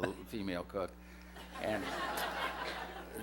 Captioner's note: laughter